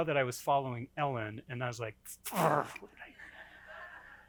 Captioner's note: groans